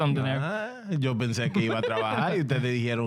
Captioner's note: speaking In Foreign Language